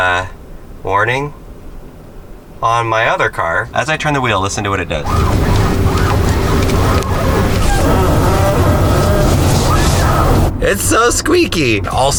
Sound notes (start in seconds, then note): 5.0 squeaking